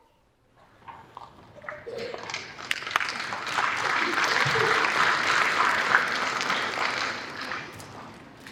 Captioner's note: applause